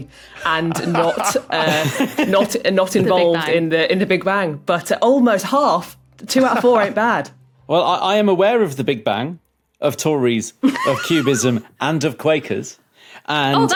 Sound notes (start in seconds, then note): 0.4 others giggling; 7.3 laughs